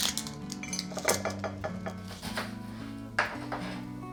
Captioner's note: bowl rattling